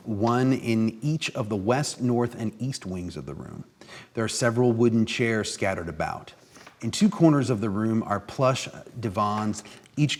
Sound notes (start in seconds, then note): none